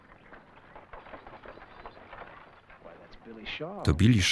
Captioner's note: wagons creaking